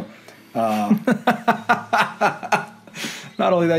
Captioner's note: laughter